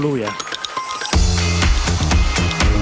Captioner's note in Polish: oklaski